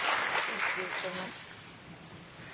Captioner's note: applause